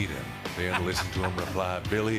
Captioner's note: laughter